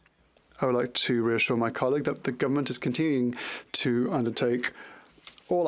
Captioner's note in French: voix de l'interprète